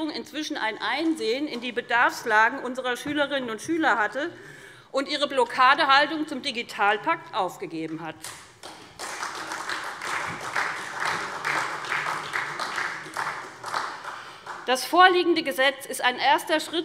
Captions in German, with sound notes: inzwischen ein Einsehen hatte, sich mit der Bedarfslage unserer Schülerinnen und Schüler vertraut gemacht und ihre Blockadehaltung gegenüber dem Digitalpakt aufgegeben hat. [Beifall SPD] Der vorliegende Gesetzentwurf ist ein erster Schritt